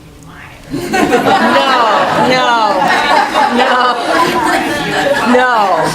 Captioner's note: laughing